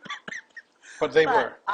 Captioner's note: laughing